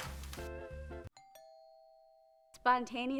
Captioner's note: doorbell rings